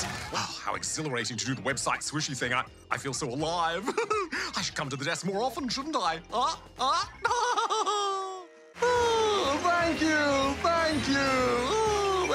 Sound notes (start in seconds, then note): 6.9 laughs